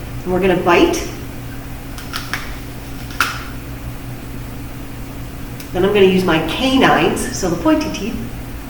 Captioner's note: bites into apple